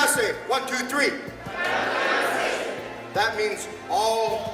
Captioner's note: speaking native language